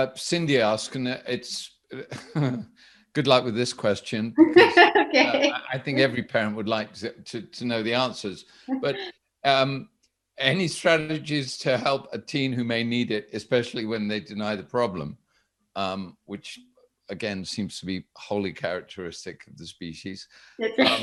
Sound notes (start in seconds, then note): 1.9 chuckles; 4.4 laughs; 20.7 chuckles